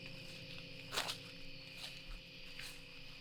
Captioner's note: footsteps through underbrush